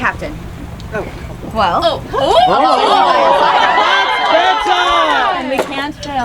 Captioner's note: audience gasping